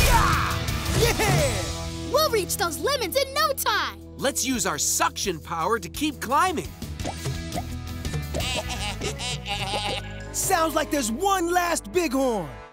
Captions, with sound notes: Yeah! We'll reach those lemons in no time. Let's use our suction power to keep climbing. [laughing] It sounds like there's one last bighorn.